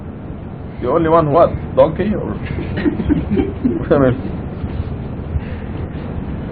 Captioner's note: laughter